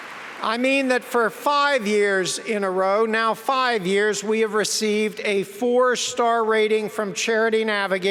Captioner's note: applause